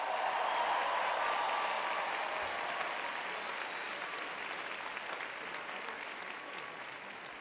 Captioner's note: applause; cheering